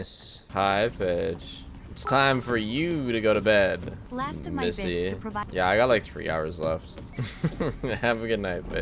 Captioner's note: laughs